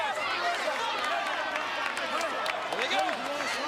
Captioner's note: crowd chattering